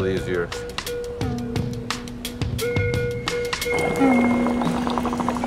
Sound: laughs

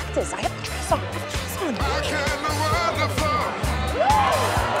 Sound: cheers

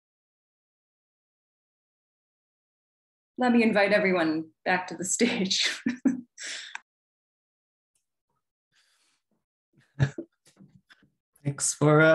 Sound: laughs

